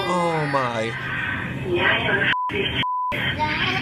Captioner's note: woman on intercom